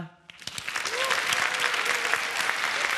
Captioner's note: applause